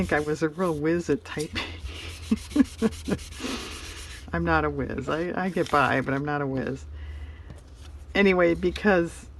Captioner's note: laughs